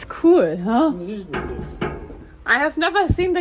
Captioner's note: metal clanging